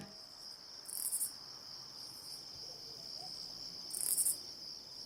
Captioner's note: insects chirping